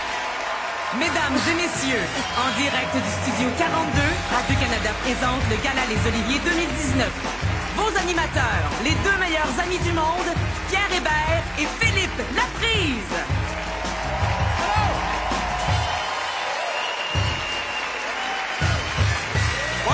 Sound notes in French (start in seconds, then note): 10.6 applaudissements